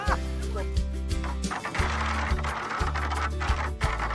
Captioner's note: paddle scraping rocks